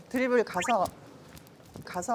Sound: soft steps

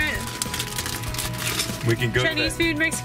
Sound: plastic rustling

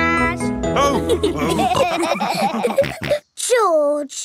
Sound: all laughing

